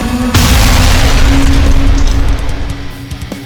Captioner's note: scorpion beast clanking; ground crashes; intense rock music